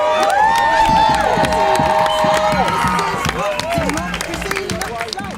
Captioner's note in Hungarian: Taps és éljenzés